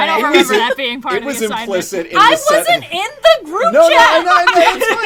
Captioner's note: laughs; laughs